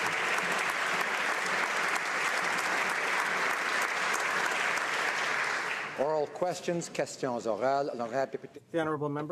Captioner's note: some Applause